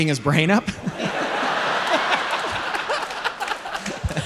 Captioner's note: audience laughing